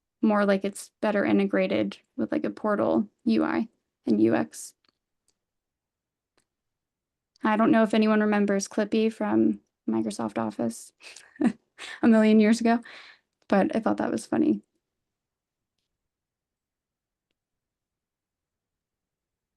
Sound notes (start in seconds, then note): 11.0 chuckles